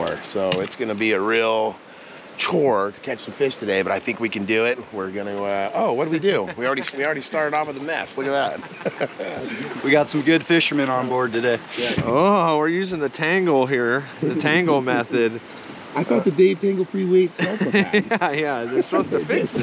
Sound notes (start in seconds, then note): 6.2 laughing; 8.2 laughing; 17.2 chuckling